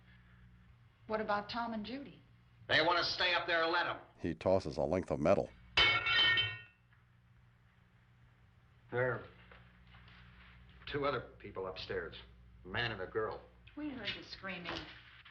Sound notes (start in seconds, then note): 5.8 crowbar clatters